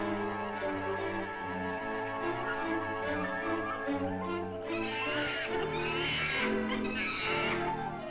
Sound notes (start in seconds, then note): 4.8 monkey screeches